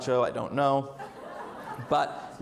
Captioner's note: audience laughs